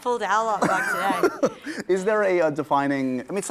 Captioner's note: laughter